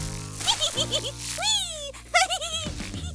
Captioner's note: laughs